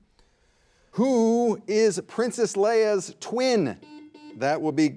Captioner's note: buzzer buzzing